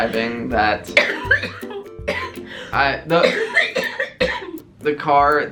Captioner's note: coughing